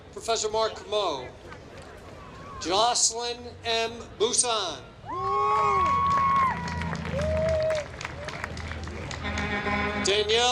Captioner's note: applause